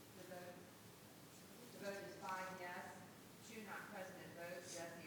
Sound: board members chattering; faintly speaking

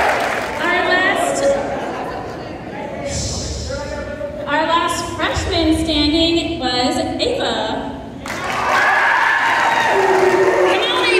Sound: cheering; cheering

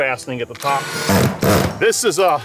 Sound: drill rattling

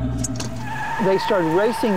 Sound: brakes squealing

